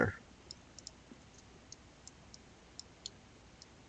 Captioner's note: mouse clicking